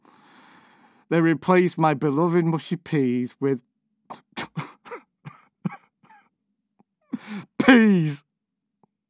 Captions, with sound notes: They replaced my beloved mushy peas with - [sobs] peas!